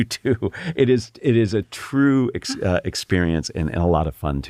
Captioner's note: laugh